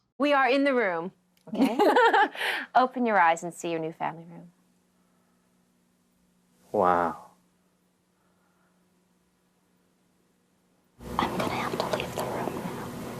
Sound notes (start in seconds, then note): 1.5 all chuckling